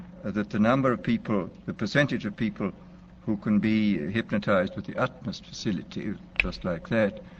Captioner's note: snaps